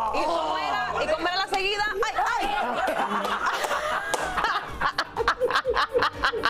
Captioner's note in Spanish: gritos